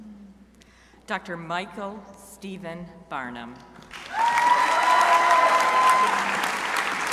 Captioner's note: crowd cheering